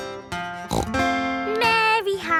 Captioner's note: snorts